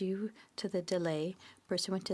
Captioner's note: speaking French